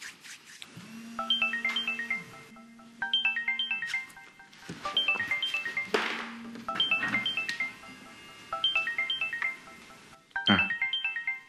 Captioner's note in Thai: เสียงโทรศัพท์